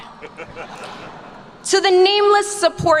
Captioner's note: attendees laugh